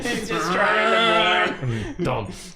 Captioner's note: making engine noises